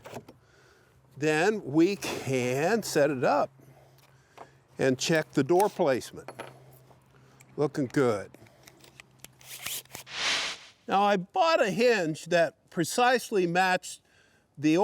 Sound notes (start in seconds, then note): 10.0 screen whooshing